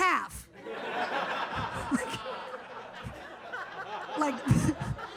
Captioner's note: audience laughs